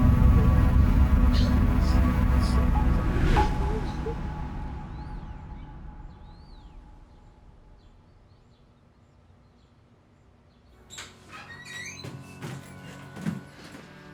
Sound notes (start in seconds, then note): 4.7 birds chirping; 10.7 door clicks open; 12.0 somber music playing